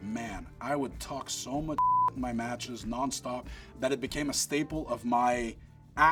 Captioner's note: beep